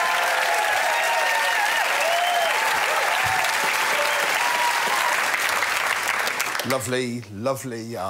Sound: applause

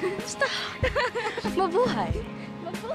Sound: laughs

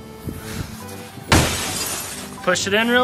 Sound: jar crashes

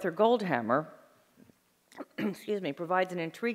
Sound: clears throat

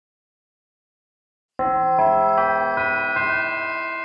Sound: bell chimes

